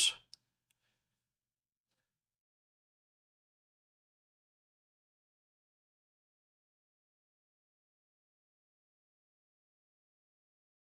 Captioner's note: silence